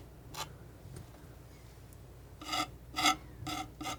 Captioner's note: scratching